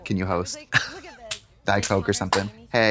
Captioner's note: Katya rattles